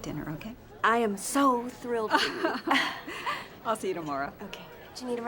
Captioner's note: laughs